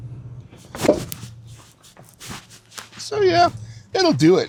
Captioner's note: truck thuds